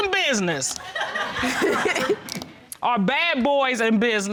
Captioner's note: laughter